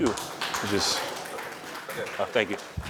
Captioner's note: audience applause